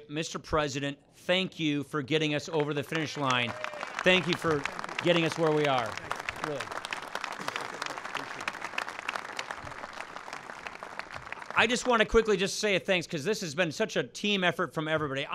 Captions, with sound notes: Mr. President, thank you for getting us over the finish line. Thank you for getting us where we are. (Applause.) I just want to quickly just say a thanks because this has been such a team effort from everybody.